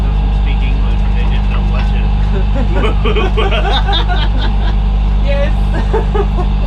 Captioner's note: laughter